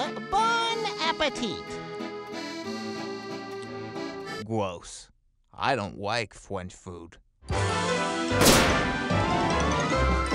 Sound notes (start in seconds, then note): 7.5 theme Music; 8.4 bang